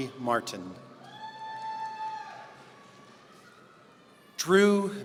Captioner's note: audience cheering